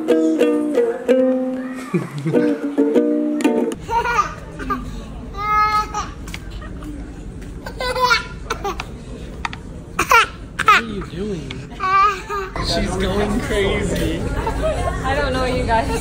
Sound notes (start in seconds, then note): 5.3 laughing